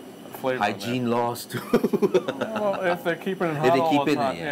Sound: laughs

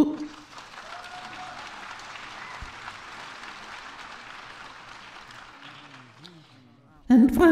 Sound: applause

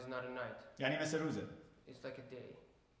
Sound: speaking in farsi

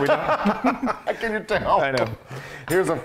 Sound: laugh

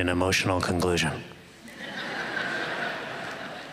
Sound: laughter

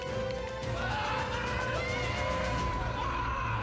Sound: screaming

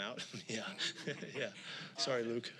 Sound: laughing

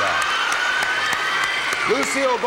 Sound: applause

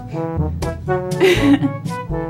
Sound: laughter

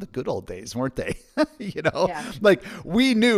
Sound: laughs

